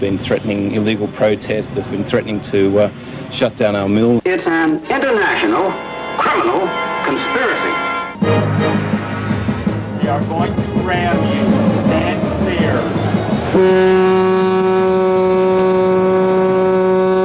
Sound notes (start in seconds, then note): 13.4 foghorn